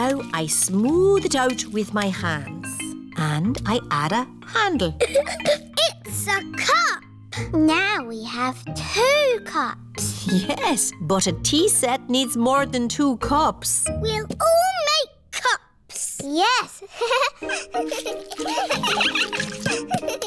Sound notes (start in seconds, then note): 5.0 giggles; 16.8 giggles; 16.9 all giggling